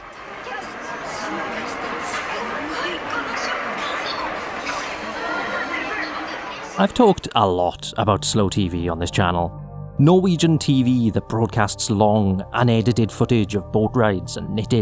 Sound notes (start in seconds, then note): 0.8 street audio